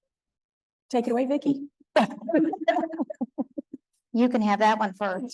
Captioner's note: laughing